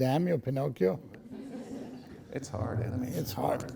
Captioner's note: laughing